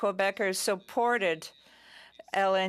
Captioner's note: speaking French